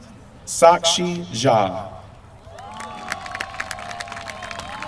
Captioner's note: applause